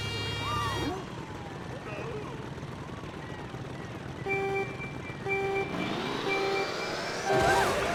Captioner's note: countdown and engines revving